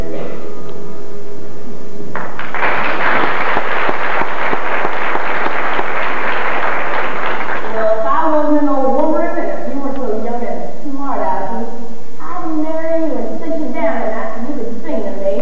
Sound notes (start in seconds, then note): 2.1 applause